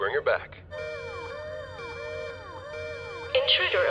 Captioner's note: alarm blares